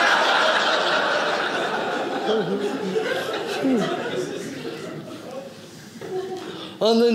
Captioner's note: audience laughing